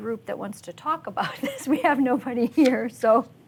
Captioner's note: laughs